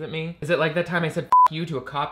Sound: beep

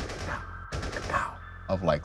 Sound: guns firing

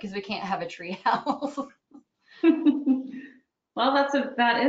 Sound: laughing

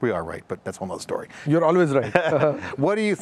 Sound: both laughs

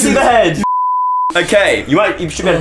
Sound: beep

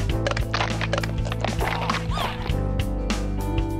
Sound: bones cracking

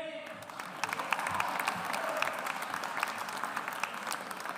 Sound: audience applauds

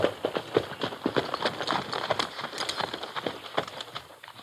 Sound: hooves clattering

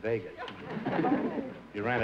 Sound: laughter

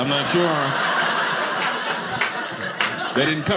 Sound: audience laughing

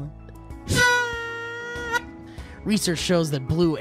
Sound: tooooot

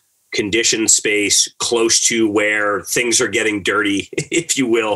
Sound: laughs

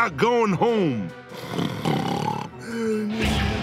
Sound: starts snoring

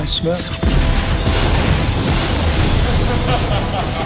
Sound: explosion; laughter

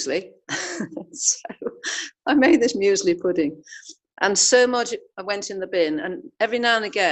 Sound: laughing

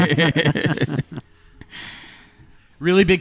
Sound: laughter

